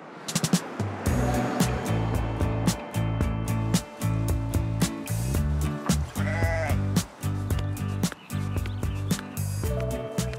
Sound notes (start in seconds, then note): 0.2 upbeat music; 6.1 sheep bleat; 7.2 birds twitter